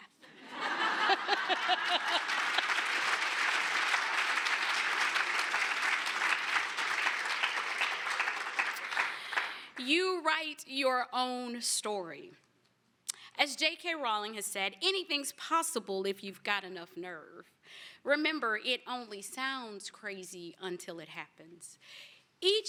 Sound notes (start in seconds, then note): 0.1 laughter; 1.2 applause